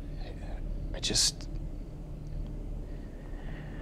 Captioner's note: crickets chirping; tense music; sighs